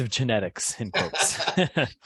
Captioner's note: laugh